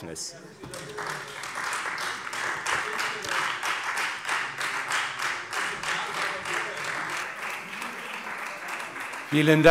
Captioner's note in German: Beifall Freie Demokraten und vereinzelt DIE LINKE